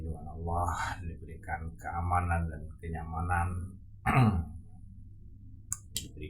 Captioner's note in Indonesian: berdehem